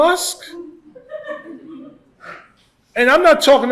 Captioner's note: laughter